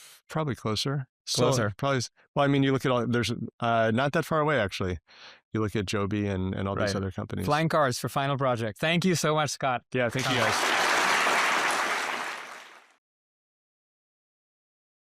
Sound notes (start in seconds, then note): 10.1 applause